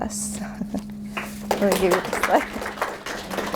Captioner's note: applause